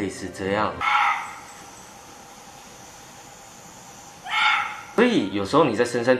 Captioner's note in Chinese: 山羌的叫声